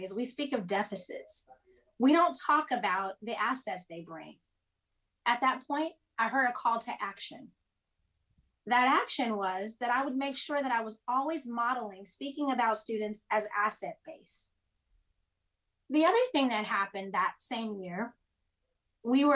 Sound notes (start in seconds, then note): none